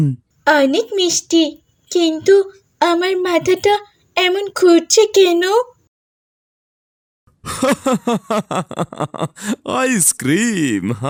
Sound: loud laughter

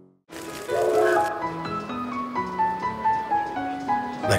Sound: train horn

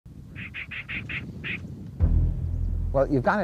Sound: squirrel chittering; dramatic music

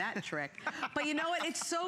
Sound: laughter

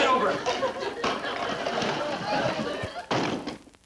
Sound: laughing

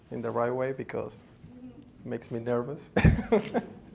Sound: laughs

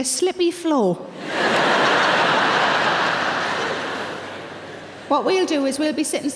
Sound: audience laughing

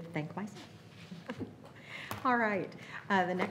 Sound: laughing

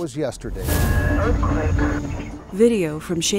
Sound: loud boom and alarm; sustained rattling

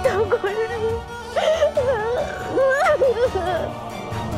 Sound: crying

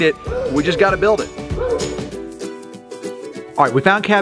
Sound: peppy ukulele music; dog barking

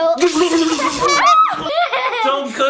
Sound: child laughing; electricity crackling

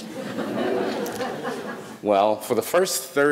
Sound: audience laughing

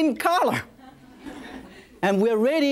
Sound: audience laughs

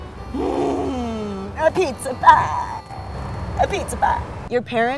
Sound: grunts

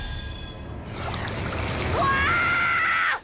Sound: screaming

